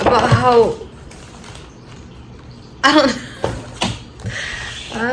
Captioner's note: laughs